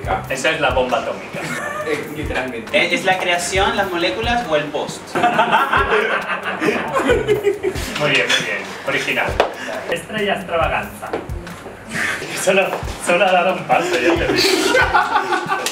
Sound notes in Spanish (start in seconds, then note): 5.1 risas; 13.8 risas